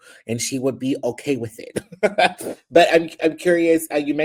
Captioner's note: laughs